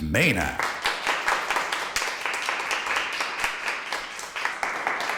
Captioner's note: attendees clapping